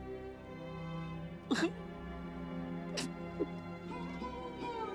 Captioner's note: Crying